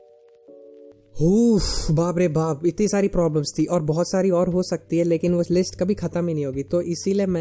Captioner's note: sigh